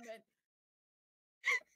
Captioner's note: laughing